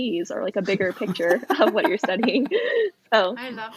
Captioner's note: laughs